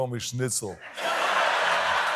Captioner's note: laughter